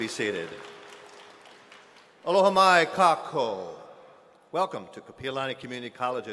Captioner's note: speaking hawaiian